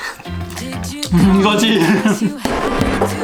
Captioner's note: silly laughter